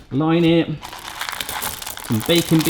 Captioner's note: baking beads clacking